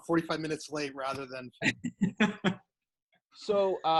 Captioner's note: laughs